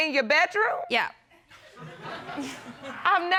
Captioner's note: chuckles; audience laughing